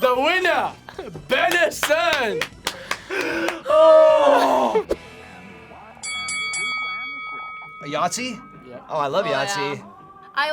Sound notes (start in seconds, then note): 6.0 bell rings